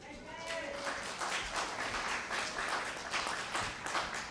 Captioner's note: applause